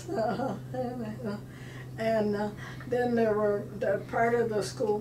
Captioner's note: laughing